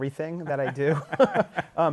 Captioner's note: laughter